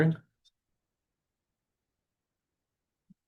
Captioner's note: mouse clicks